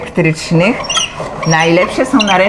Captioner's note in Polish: skrzypienie